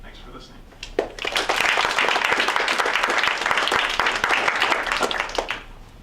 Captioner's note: audience Clapping